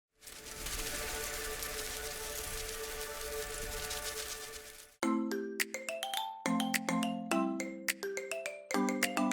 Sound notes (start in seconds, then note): 0.0 butterflies Fluttering; 5.0 peppy Music